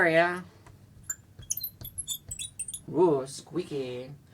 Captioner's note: marker squeaking